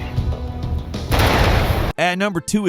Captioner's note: explosion booms; gun blasting; guns blasting